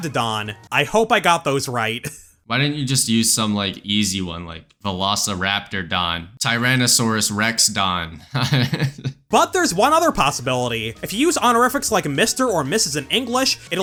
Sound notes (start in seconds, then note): 8.3 laughs